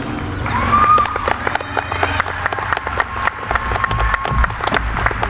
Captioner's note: audience applauding